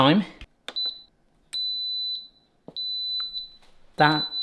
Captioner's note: Instant Pot beeping